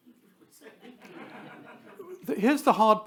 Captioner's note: attendees laugh